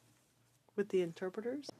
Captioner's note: speaking French